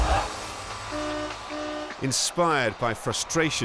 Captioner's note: horns honking